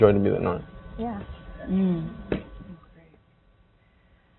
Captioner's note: murmuring